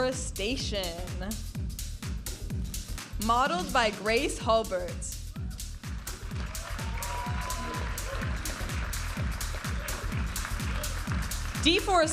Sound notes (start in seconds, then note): 1.7 upbeat music; 5.9 audience applauding and cheering; 9.6 upbeat music